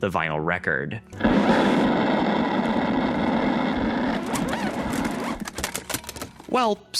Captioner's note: screech